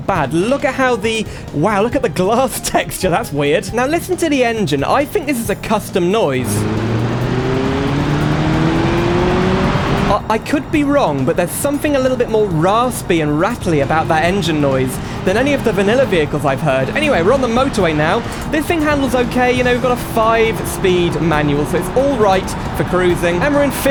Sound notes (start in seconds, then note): 6.6 engine Revs